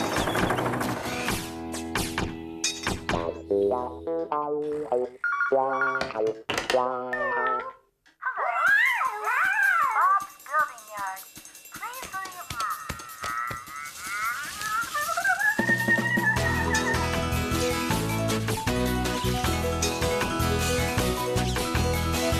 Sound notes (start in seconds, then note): 5.2 phone Ringing; 6.5 clunk!; 18.5 fast Music